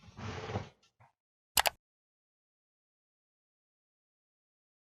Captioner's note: computer mouse clicks